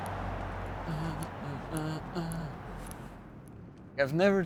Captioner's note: hums